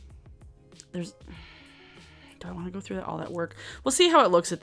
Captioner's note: sighs